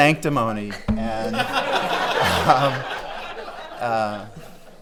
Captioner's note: laughing